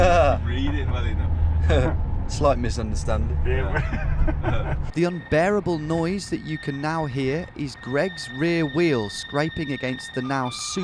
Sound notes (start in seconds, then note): 0.2 chuckles; 3.4 driver laughing